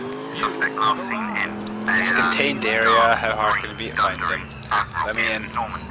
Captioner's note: radio Interrupted